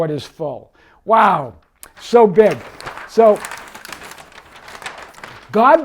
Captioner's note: paper crinkling